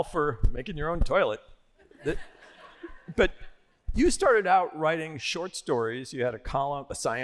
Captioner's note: laughter